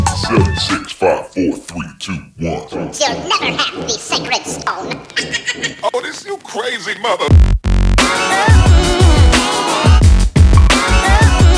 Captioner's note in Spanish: risas